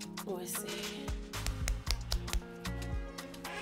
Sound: foot tapping

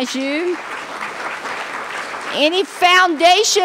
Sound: applause

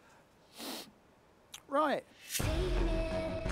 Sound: sniffs

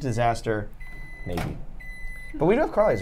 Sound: microwave beeps

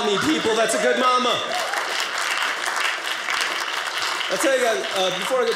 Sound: audience applauding

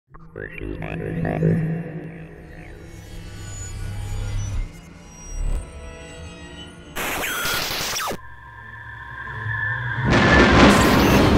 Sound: sound Effects

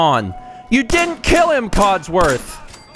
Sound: blam! blam! blam! blam!

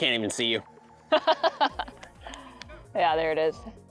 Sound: laughing

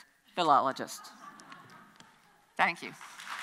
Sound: audience laughs

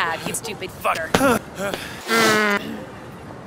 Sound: loud pant

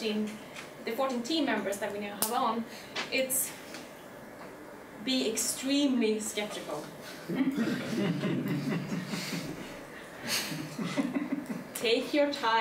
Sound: chuckling

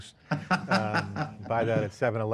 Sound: laughs

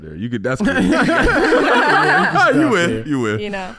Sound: all laughing

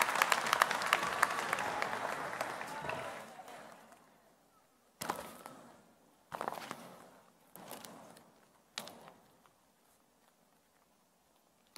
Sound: applause

